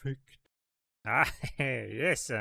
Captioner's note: laughs